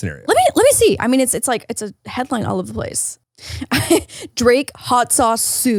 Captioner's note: laughs